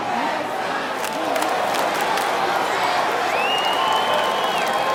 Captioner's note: crowd; crowd cheers